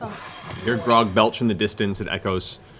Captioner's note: belches